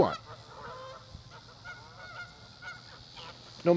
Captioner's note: canada goose sounds